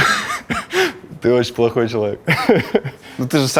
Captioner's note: laughs